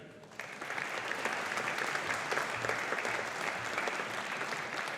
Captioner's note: audience applauding